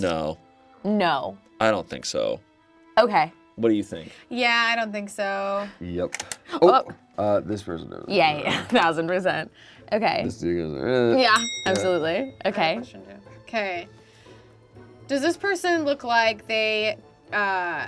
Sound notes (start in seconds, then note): 11.0 mumbles; 11.3 bell clicking sound